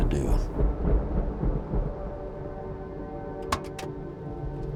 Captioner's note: thunder rumbles